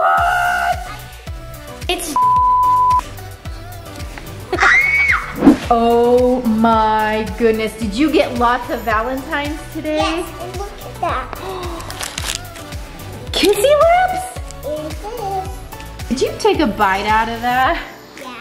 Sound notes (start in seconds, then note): 2.1 beep; 4.5 screams; 11.4 gasps